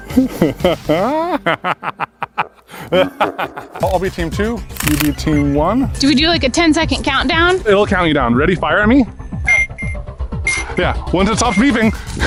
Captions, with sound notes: (laughing) (EVIL LAUGHING!) I'll be Team 2, you'll be Team 1. Do we do like a ten second countdown? It'll count you down. Ready to fire me? Yeah, once it's off beeping.